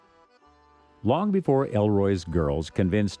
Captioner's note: voiceover